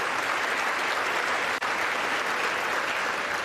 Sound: applause

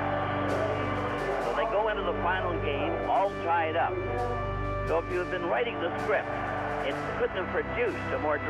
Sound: cheering

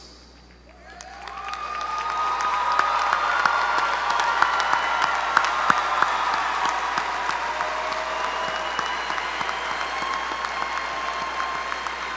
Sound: applause

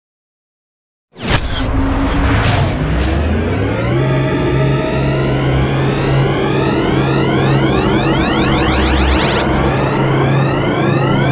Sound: sound of science fiction

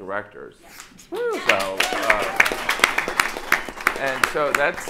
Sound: audience applauding

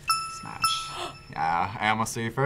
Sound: React gasps

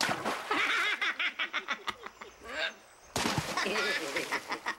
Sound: high-pitched laughter

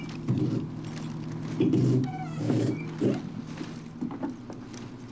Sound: wood clicking

